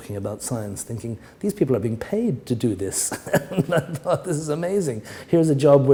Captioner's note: chuckle